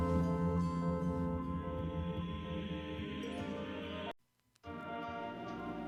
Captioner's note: chanting